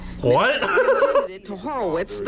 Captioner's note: laughs